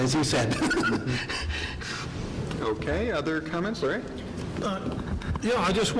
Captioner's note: laughs